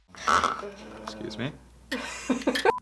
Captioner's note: scraping; laughs